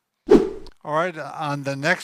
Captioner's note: whip sound